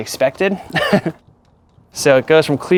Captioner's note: laughing